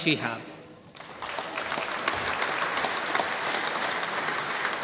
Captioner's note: applause